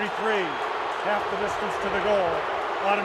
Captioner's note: booing